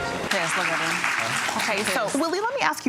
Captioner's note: audience applauding